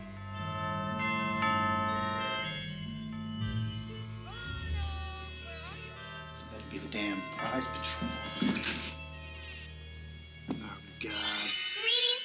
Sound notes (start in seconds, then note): 0.6 door bell rings